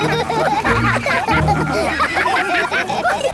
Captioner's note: all laugh